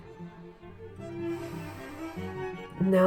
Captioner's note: inhale while contemplating the futility of reason